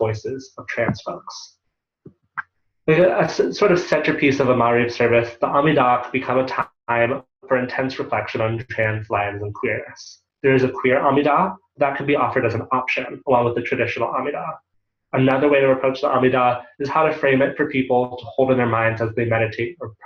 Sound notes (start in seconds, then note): 5.1 Hebrew